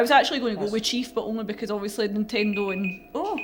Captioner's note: timer sounds